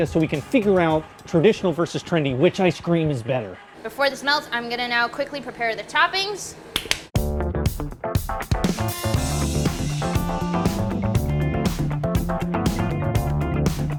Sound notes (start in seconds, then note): 6.7 claps; 7.1 energetic jazzy music